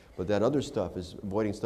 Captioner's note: none